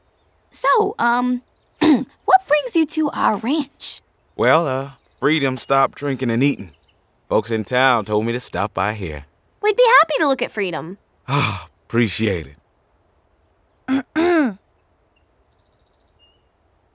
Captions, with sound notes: So, um, [clears throat] what brings you to our ranch? Well, Freedom stopped drinking and eating. Folks in town told me to stop by here. We'd be happy to look at Freedom. [sighs] Appreciate it. [clears throat]